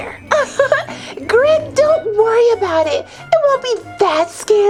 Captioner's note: laughs